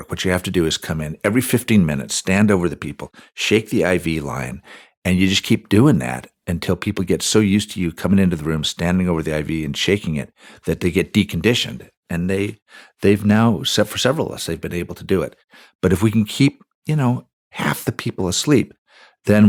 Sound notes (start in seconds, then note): none